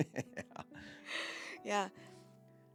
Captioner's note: laughing